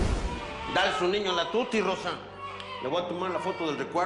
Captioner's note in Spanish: Llanto del bebé